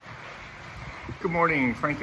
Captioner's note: waves lapping